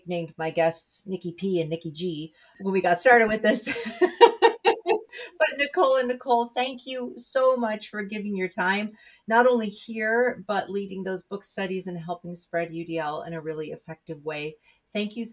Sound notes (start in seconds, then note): 3.8 laughing